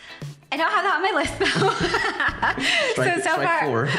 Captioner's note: laughs